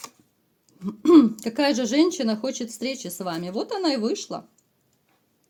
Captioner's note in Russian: откашливается